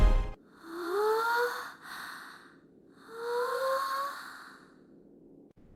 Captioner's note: gasp